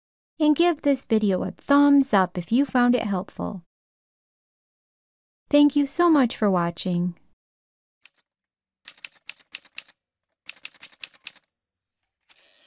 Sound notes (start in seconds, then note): 8.7 typewriter sounds